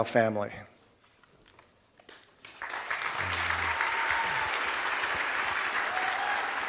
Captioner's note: cheers and applause